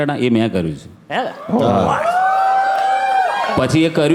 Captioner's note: crowd applauding